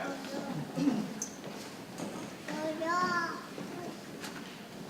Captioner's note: people chattering softly